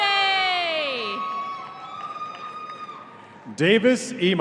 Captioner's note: audience cheering